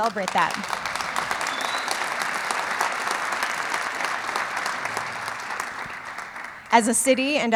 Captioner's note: clapping